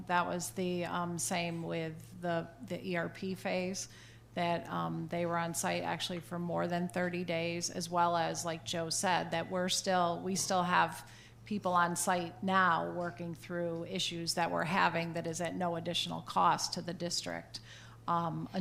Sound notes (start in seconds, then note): none